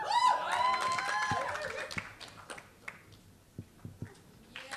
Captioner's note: applause